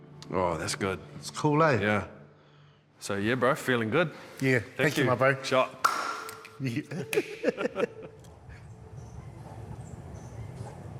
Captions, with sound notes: - Oh, that's good. - It's cool, eh? - Yeah. So yeah, bro, feeling good. - Yeah, thank you, my bro. - Shot. (BOTH LAUGH)